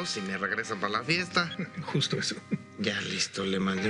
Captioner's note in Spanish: Ríe